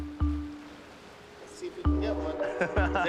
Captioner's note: laughs